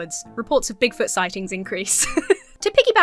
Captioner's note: laughs